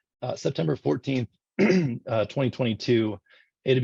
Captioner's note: clears throat